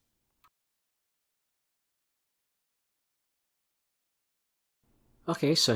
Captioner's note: pause